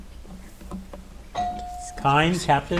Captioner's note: bell ringing